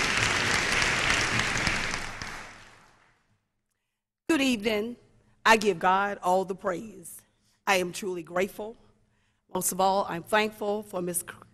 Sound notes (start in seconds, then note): 3.4 applause